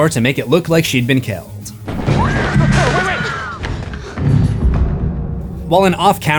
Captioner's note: screams